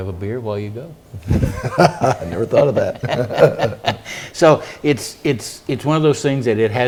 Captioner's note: laugh